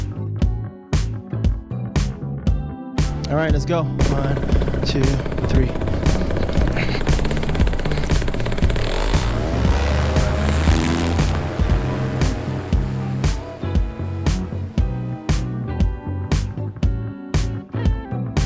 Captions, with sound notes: All right, let's go. (machine engine roars) One, two, three. (upbeat music)